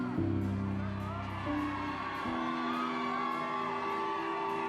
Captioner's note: crowds cheering